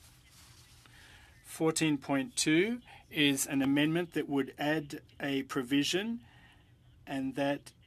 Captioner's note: speaking french